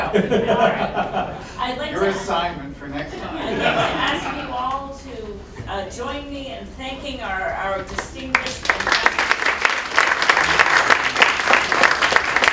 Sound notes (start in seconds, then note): 0.0 laughter; 3.0 laughter; 7.9 applause